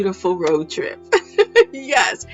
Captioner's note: laughs